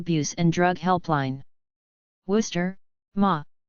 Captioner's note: Spanish